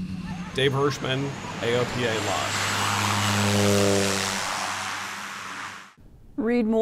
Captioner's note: plane engine roaring